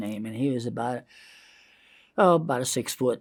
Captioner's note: inhales